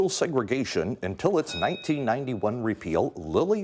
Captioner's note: bell dinging